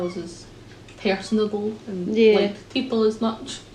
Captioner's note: laughs